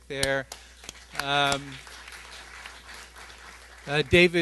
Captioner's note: applause